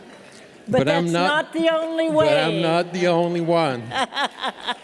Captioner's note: laughter